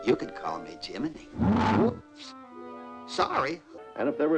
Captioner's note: roars